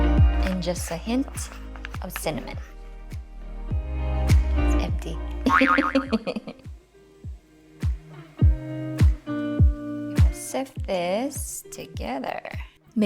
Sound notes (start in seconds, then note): 5.6 laughing softly